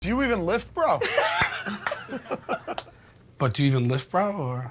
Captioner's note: jokers laughing